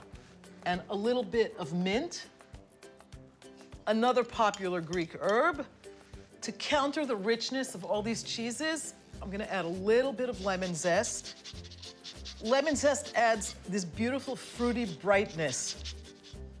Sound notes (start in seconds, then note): 11.0 scraping